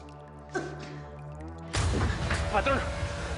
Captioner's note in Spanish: Sigue tosiendo